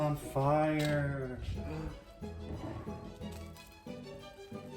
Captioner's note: gasping